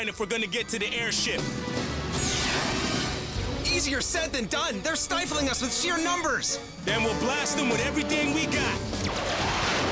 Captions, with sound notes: WE HAVE TO BREAK THROUGH THE LINE IF WE'RE GONNA GET TO THE AIRSHIP. (ROCKETS ZIP THROUGH AIR) EASIER SAID THEN DONE. THEY'RE STIFLING US WITH SHEER NUMBERS! THEN WE'LL BLAST 'EM WITH EVERYTHING WE'VE GOT!